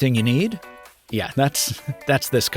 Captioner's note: laughs